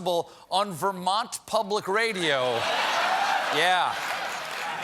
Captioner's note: laughter